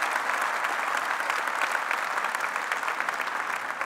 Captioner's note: applause